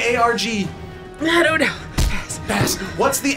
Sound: stamp thuds

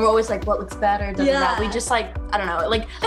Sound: murmurs

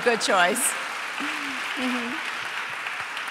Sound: applause

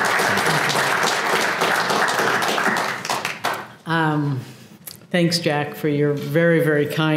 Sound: applause

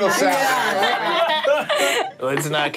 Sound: all laughing

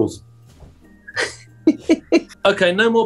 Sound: giggling

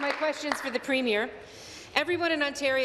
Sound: applause

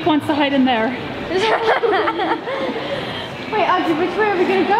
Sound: laughs

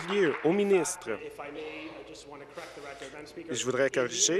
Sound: applause

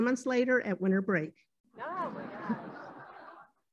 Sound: laughter

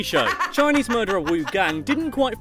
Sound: laughs

